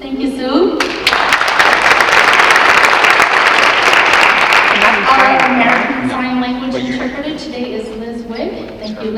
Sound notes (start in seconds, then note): 0.8 audience clapping